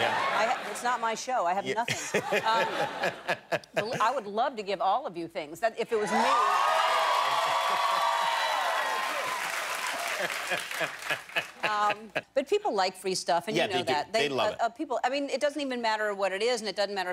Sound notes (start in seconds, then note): 8.7 cheers and applause